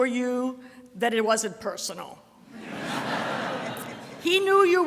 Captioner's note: audience laughter